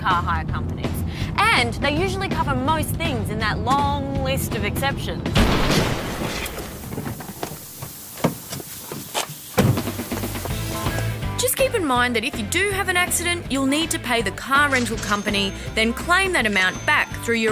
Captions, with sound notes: And they usually cover most things in that long list of exceptions. (Crash!) (Hissing) Just keep in mind that if you do have an accident, you'll need to pay the car rental company, then claim that amount back through your external insurer.